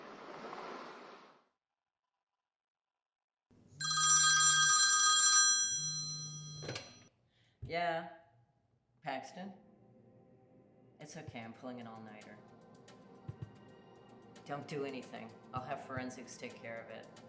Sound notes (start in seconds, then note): 3.8 phone ringing